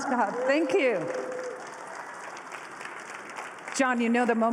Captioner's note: applause